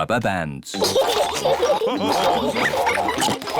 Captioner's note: all laugh